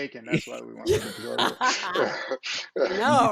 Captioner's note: laughs